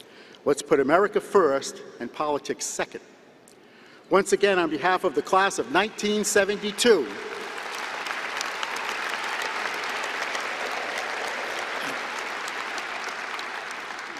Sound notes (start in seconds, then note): 6.5 applause